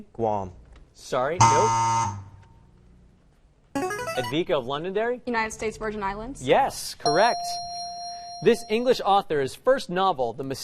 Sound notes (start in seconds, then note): 1.5 buzzing; 7.1 dinging